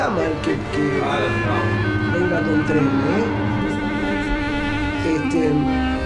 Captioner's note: chatting about the train passing